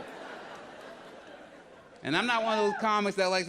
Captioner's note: audience laughs